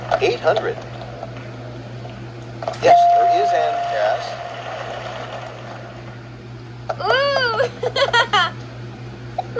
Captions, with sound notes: $800. Yes, there is an S. (Tomoko cheers)